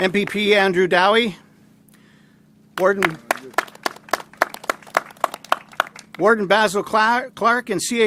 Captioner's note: applause